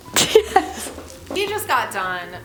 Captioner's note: laughing